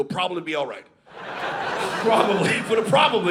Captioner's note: audience laughing